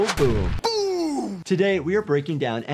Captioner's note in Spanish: bomba explotando